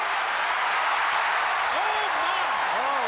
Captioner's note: crowd cheers